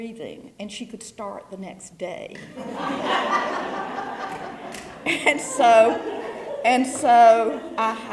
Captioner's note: laugh